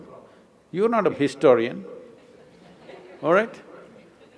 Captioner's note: few laugh